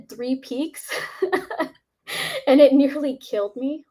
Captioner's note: laughs